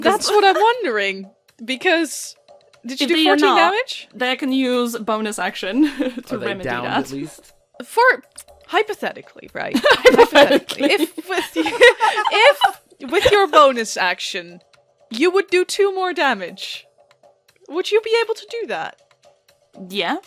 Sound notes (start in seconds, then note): 9.7 laughter; 9.8 laughing